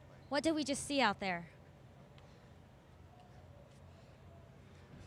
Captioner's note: none